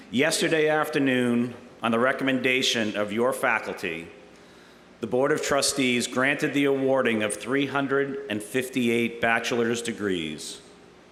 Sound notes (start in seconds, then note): none